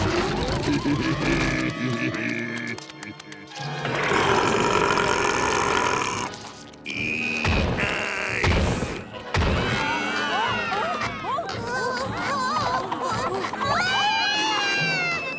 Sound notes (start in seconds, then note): 0.0 laughing; 3.6 burping; 14.0 screaming